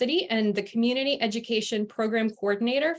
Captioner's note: non-english speech